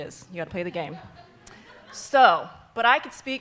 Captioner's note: all laughing